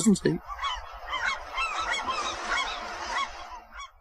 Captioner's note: seagulls cawing